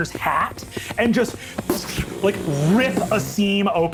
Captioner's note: imitates bullet whizzing